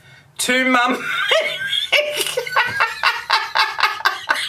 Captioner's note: raucous laughter